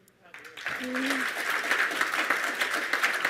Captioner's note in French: Applaudissements